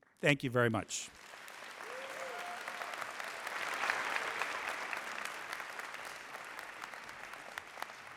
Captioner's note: applause